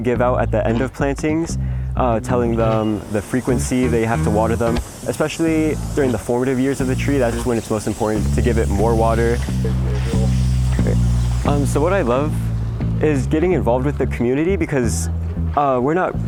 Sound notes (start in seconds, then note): 10.0 hose spraying